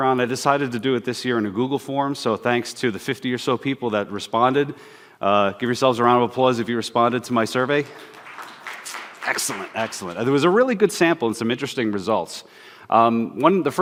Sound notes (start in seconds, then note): 7.6 applause